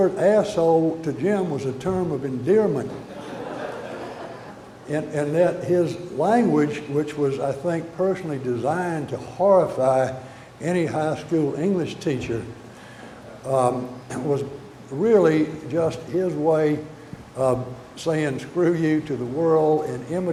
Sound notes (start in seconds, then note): 5.1 audience laughter